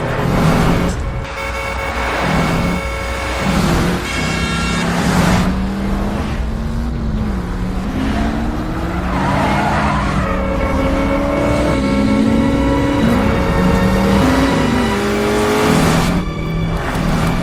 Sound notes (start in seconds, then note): 0.1 car passing in high speed; 9.1 tire screeching, horn honking